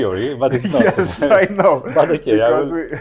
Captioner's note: laughs